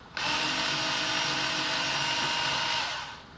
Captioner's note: whirrr